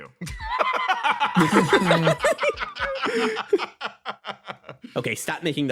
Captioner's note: laughs